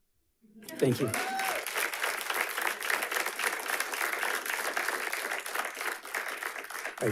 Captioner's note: audience applauding